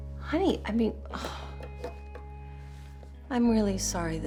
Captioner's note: sighs